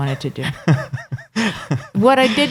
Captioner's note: laughing